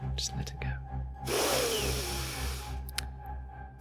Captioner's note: deep breath